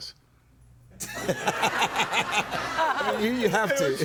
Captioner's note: crowd laughing